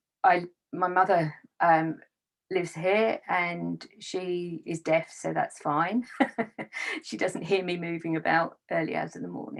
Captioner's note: laughs